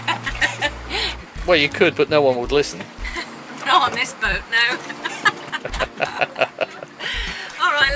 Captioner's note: laughs